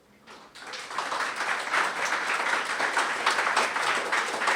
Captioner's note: audience applauding